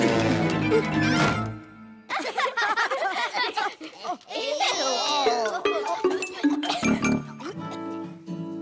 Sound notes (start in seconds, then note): 2.1 laugh